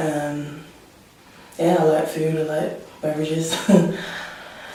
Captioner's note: laughs